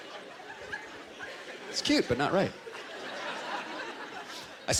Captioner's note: normal voice